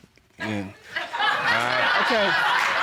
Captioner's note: audience laughing